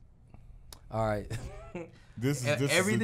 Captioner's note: chuckles